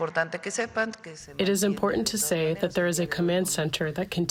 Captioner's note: through translator